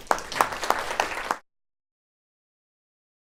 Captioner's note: clapping